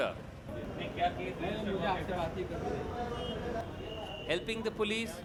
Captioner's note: speaking hindi